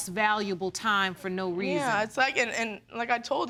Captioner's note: stuttering